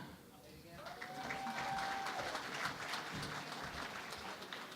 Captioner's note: cheering and Applause